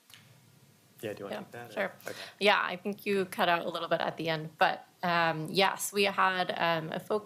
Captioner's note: broken audio